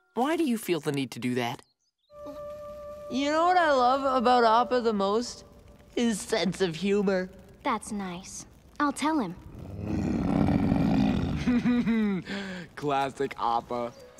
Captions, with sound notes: Why do you feel the need to do that? You know what I love about Appa the most? - His sense of humor. - That's nice, I'll tell him. [growling] [giggling] Classic Appa!